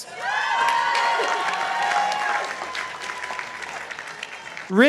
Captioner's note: participants applauding